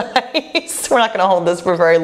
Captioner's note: laughs